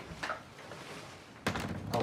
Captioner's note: door creaking